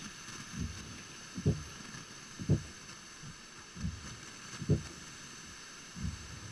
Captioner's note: static hissing; wipers thudding